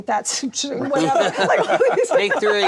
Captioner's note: laughter